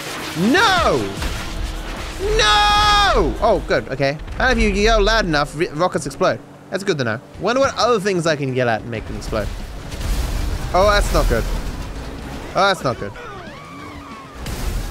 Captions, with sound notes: NO [Screaming] NOOO!!! [Calmly] Oh, good. Okay. Apparently if you yell loud enough, rockets explode. That's good to know. Wonder what other things I can yell at to make them explode. Oh, that's not good. Oh, that's not good.